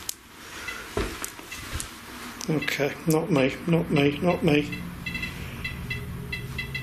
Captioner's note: beeping